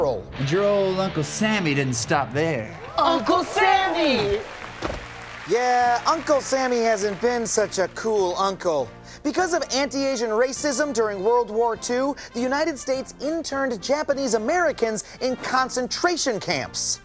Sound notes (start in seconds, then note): 0.2 guitar riff; 4.6 canned applause